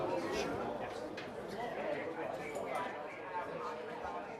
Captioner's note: crowd chattering